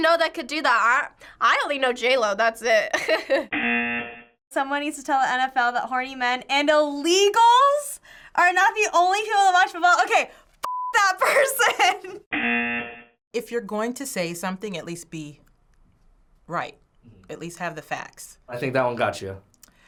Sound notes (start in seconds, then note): 3.0 chuckles; 3.5 buzzer; 11.3 laughs; 12.3 buzzer